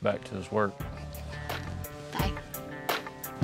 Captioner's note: chuckling